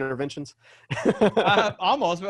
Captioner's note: laughs